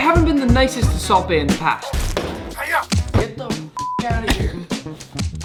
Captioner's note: beep